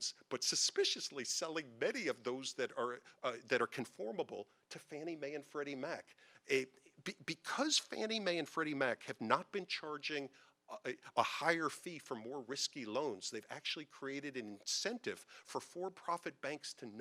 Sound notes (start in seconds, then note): none